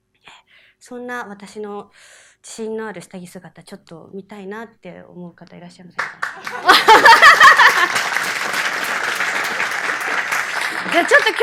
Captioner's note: laugh